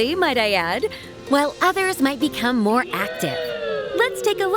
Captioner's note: heroic howls